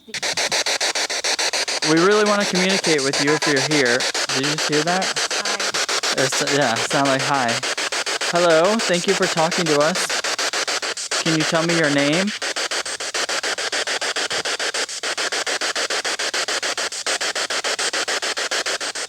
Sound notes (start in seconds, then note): 0.1 loud static electric noise; 4.1 static Electric Voice; 14.3 loud static electric noise